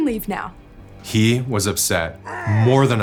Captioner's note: man growling